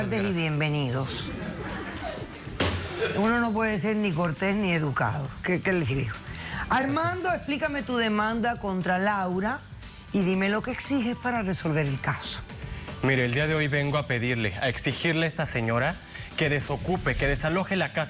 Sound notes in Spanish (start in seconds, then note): 1.4 risas